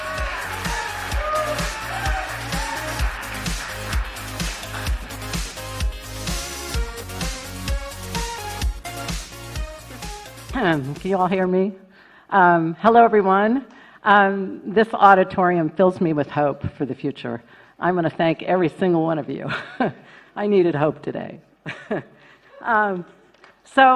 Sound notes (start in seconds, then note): 3.8 applause